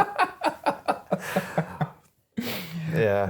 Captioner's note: both laughing